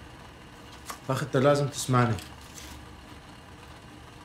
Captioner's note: In Arabic